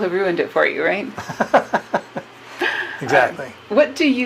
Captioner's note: laughs